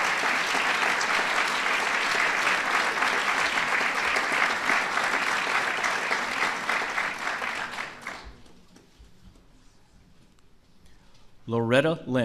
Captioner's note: applause